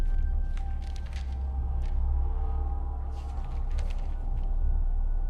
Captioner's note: papers rustling